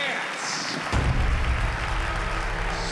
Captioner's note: applause